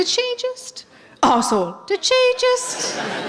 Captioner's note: coughing